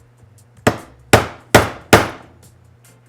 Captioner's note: banging